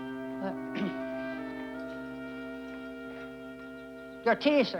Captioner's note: clears throat